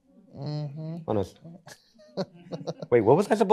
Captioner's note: chuckling